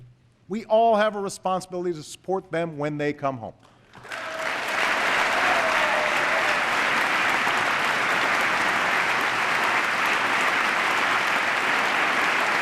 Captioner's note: applause